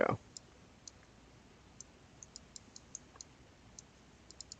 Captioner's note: mouse clicking